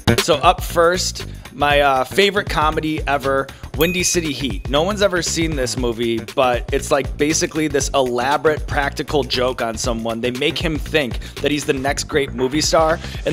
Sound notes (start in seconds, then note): 3.8 bell dings